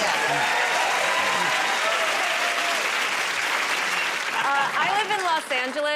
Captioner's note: cheers and applause